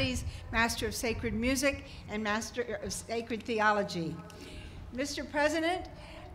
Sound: none

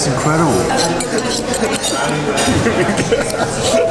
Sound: forks scraping; laughing

